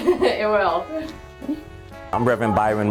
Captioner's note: laughs